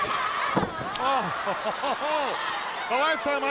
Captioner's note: laughs